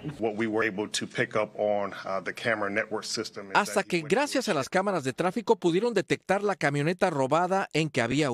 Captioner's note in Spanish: HABLAN EN INGLéS